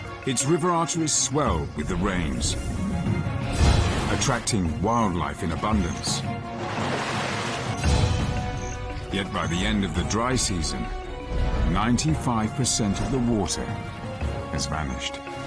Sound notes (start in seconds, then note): 6.1 water splashing; 6.5 dramatic music